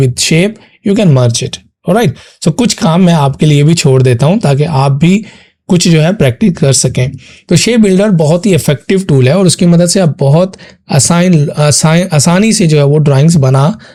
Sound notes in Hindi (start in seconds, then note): 7.0 नाक से की जाने वाली आवाज़